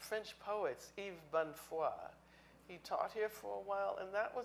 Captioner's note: speaking in foreign language